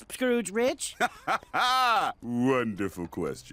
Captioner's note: laughs